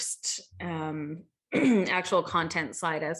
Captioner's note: cough